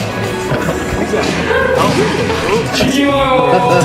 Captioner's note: laughs